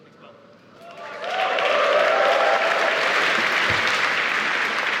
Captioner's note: cheering